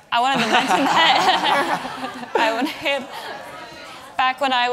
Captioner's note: audience laughs